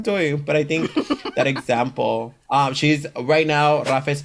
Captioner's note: laughs